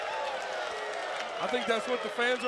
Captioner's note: crowd cheering